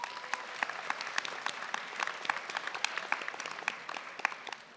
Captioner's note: applause